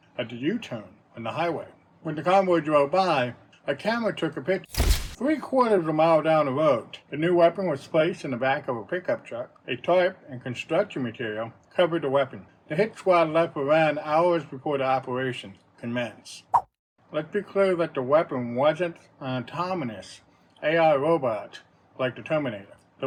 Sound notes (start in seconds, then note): 4.7 camera click; 16.5 swipe sound